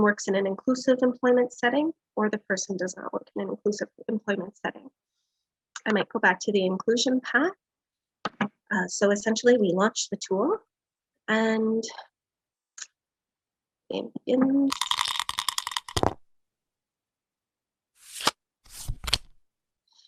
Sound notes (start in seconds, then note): 14.7 die rattling; 15.8 die clatters; 18.6 cards shuffling